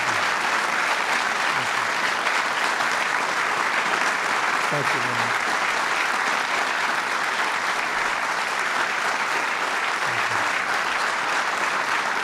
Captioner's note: applause